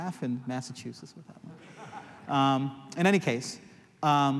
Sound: laughter

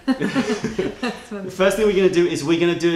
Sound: laughter

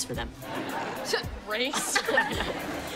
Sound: chuckles

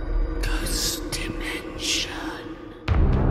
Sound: whispering Voices; intense spooky music

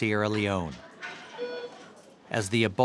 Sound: beep

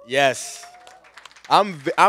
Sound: cheers and applause

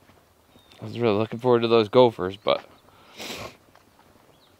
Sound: sniffs

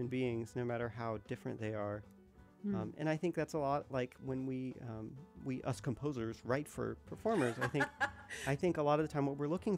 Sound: laughter

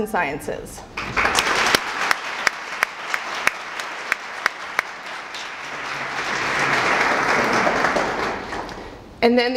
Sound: applause

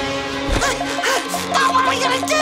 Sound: panting

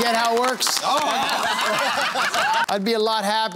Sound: laughter

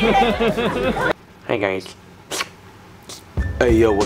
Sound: laughs; slurps

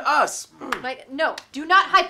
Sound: hands slapping

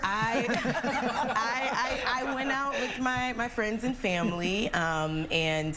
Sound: laughter

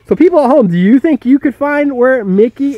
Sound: voiceover

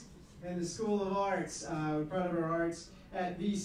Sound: none

